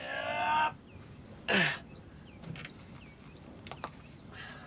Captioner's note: groaning